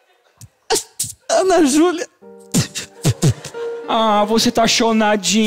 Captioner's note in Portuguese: chorando